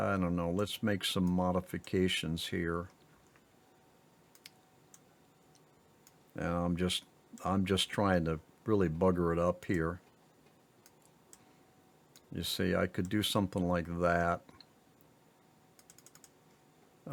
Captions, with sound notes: I don't know, let's make some modifications here. And I'm just trying to really bugger it up here. You see, I could do something like that. (keyboard clicking)